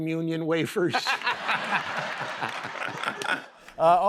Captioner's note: laughter